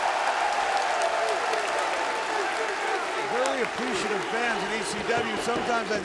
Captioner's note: applause